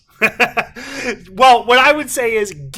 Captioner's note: laughs